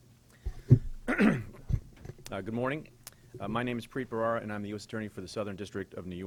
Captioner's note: clears throat